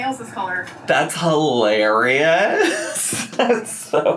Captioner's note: laughs